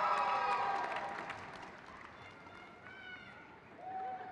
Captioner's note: crowd cheers